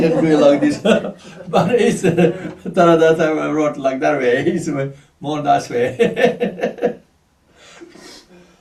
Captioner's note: laughs; laughs